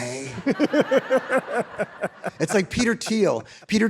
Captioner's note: all laughing